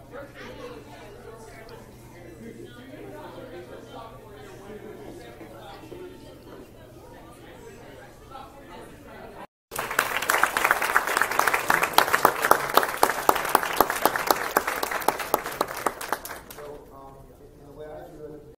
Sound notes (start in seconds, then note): 9.7 clapping